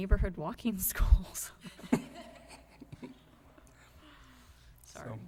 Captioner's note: laughter